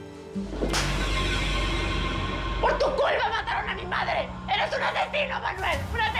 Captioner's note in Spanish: bofetada